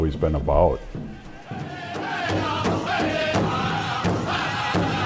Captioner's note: people chanting